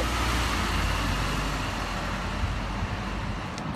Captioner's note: road construction